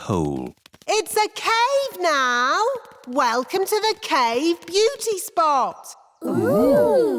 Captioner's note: echoing